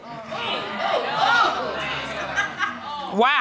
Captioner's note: courtroom exclaiming